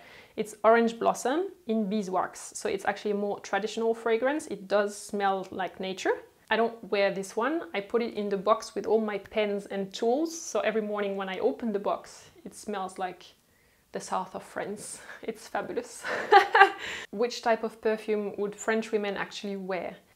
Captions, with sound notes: It's orange blossom, in beeswax, so it's actually more traditional fragrance. It does smell like nature. I don't wear this one. I put it in the box with all my pens and tools, so every morning when I open the box, it smells like the South of France. It's fabulous. [Laughter] Which type of perfume would french women actually wear?